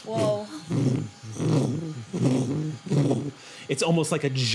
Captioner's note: vibrating